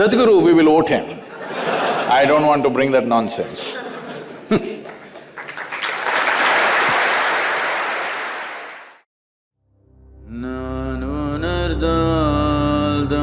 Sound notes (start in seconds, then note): 1.2 laughter; 7.7 laughs; 9.4 applause